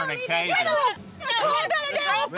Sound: yelling

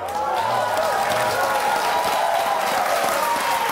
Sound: audience cheers

